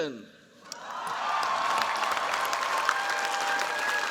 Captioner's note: cheers, applause